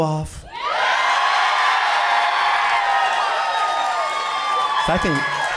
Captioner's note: audience cheering and clapping